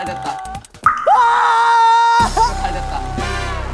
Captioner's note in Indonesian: Berteriak dengan gembira